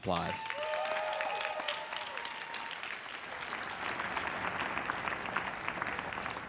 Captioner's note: everyone cheers and applauds